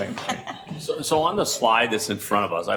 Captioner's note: laughing